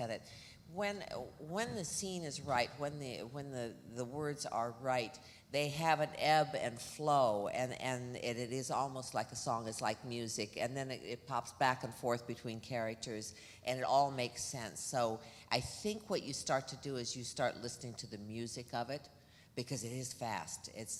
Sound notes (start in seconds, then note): none